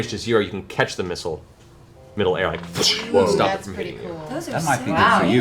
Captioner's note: whoosh